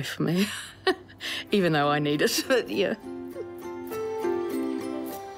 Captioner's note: chuckles; gentle music